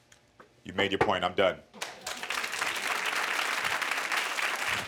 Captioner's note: audience applauds